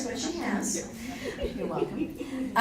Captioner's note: laughing